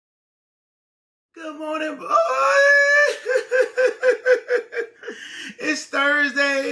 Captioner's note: wails